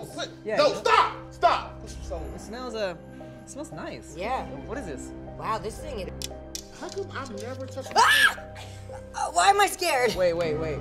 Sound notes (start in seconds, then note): 7.9 girl screaming